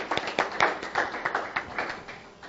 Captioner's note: applause